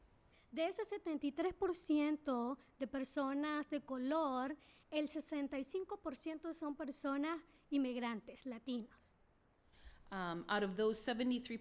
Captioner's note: speaking spanish